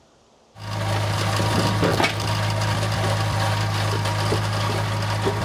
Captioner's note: engine humming; wood clunks; engine humming continues